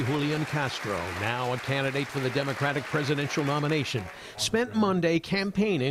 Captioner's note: applause